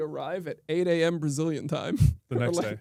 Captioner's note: chuckles